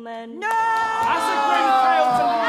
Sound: crowd protest

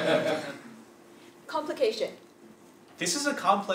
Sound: laugh

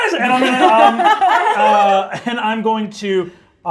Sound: all laughing

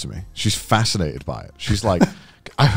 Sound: laughing

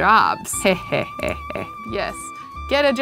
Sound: chuckles

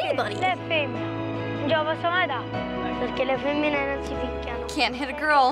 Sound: speaking Italian

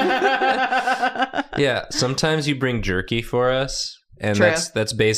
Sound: laughter

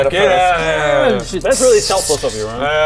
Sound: sssszhshhh

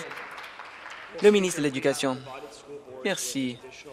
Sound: some Applause

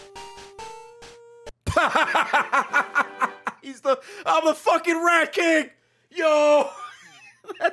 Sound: laughs

